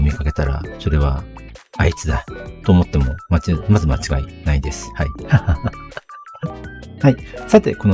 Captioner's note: laughs